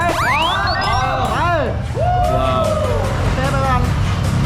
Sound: applauding

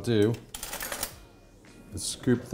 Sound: cutlery clatters

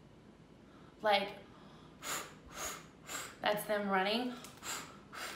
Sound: blows; blows

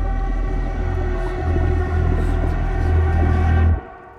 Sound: ghostly whispers

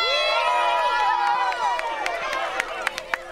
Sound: cheering

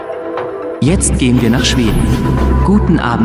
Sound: in German

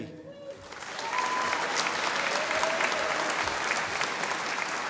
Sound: audience applauding

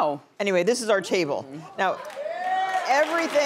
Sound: audience cheering

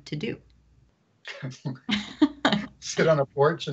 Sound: laughs

